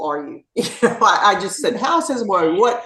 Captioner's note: laugh